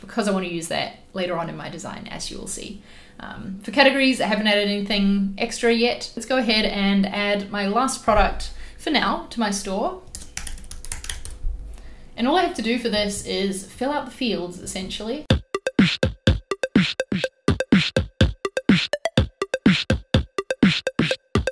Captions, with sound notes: because I wanna use that later on in my design, as you will see. For categories, I haven't added anything extra yet. Let's go ahead and add my last product, for now, to my store. (keys clicking) And all I have to do for this is fill out the fields, essentially. (electronic music)